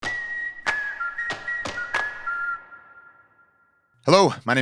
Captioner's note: cheerful whistling; upbeat music